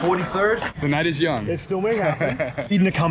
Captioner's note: laughs